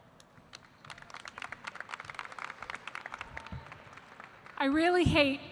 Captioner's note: audience applauding